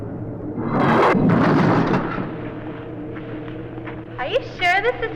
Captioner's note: door shuts